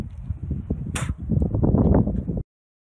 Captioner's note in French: Spit